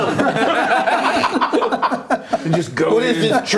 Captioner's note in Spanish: risas